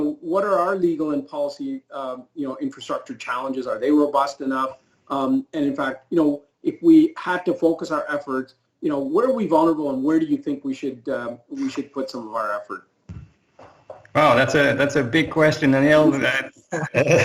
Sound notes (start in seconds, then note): 16.8 laughs